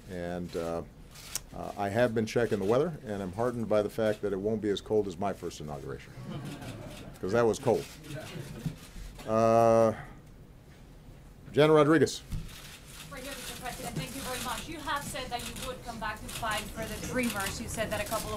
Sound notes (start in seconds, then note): 6.1 laughter